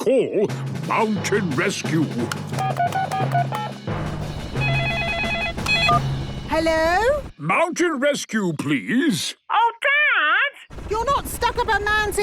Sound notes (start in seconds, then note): 2.5 phone beeping; 4.5 phone ringing